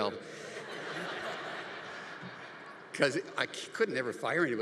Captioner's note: congregation laughing